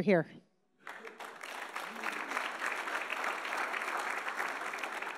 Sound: audience applauding

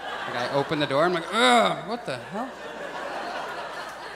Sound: audience laughs; groans; audience laughs

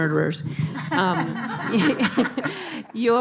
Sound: laughing

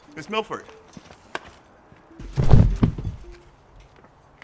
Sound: body thuds

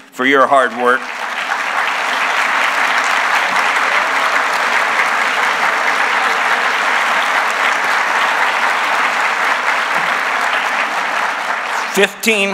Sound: applause

